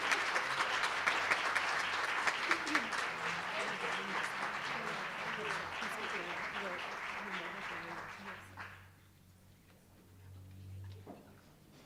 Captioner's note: applause